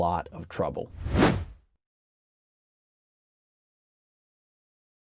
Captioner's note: air whooshing